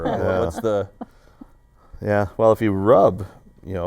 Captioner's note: laughter